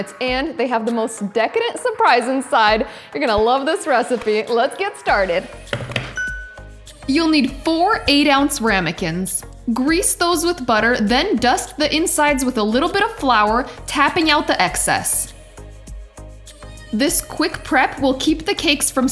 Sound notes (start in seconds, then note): 5.7 hands tapping; 6.1 bell dinging